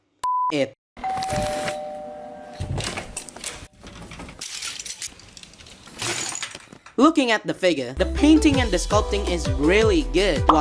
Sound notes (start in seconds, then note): 1.0 doorbell